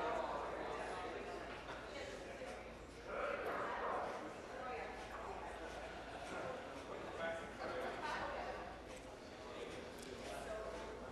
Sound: conversation din

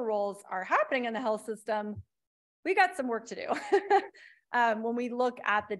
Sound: laughs

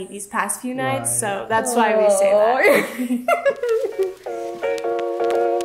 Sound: laughs; cheery piano music

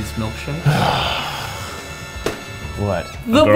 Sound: sighs

